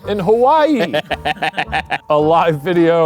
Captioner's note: laughing